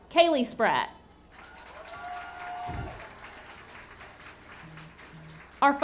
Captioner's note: audience cheering and clapping